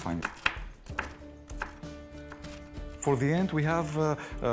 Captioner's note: crunching